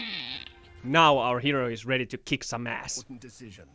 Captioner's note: evil high pitched laughter